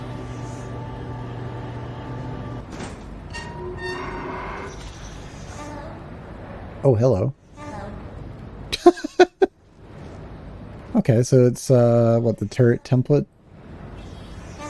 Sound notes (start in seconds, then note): 8.7 laughs